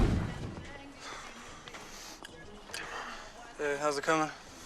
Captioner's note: tone droning